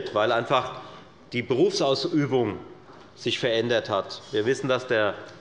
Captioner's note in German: none